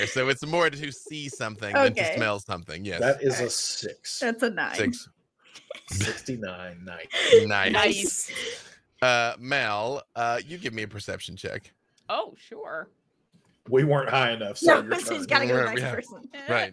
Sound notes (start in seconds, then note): 7.1 laughing